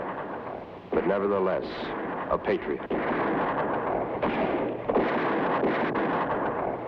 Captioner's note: gunshots blast